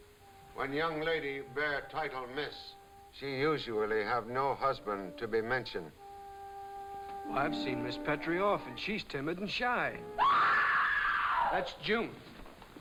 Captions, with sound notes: - When young lady bare title Miss, she usually have no husband to be mentioned. - I've seen miss Petrie often, she's timid and shy. (loud screaming) - That's June!